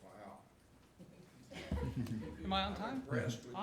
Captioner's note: laughter